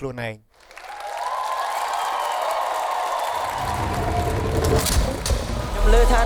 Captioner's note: cheering